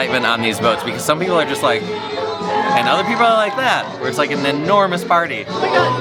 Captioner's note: party noises